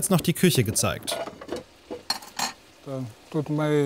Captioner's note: clattering